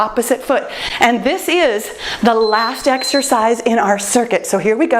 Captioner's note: timer beeps